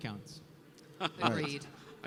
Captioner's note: laughter